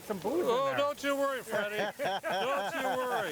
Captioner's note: all laughing